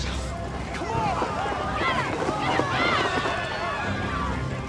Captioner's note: shouting, screaming continues